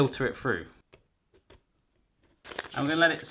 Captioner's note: crinkling